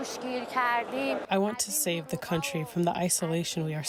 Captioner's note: through translator